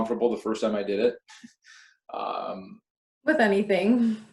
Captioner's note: laughs